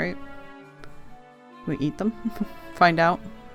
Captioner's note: small laugh